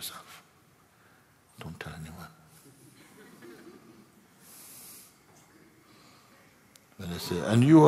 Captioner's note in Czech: tichý smích